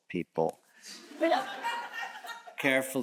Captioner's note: audience chuckles